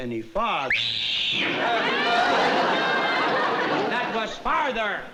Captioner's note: screaming